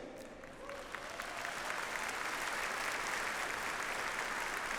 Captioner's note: audience applauds